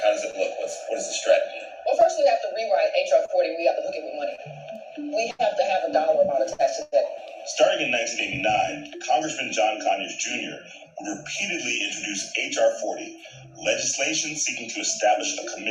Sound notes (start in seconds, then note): 7.3 voiceover